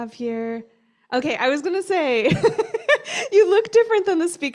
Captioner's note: laughter